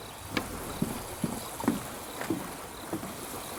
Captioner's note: feet shuffling